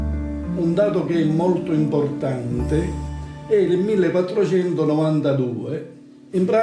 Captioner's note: speaks in foreign language